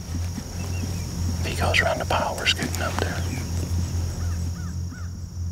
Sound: whispering

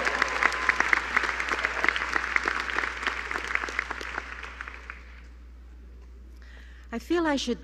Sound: applause

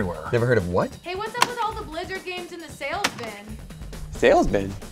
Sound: distant voice

